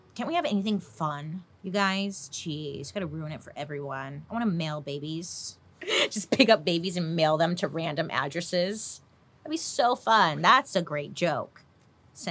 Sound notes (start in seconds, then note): 5.8 laughs